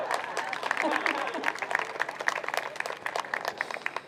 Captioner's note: crowd applauds